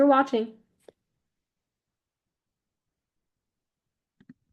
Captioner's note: silence for 5 seconds until video ends